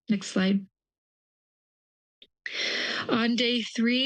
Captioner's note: pause